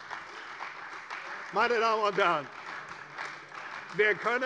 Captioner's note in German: Beifall bei der CDU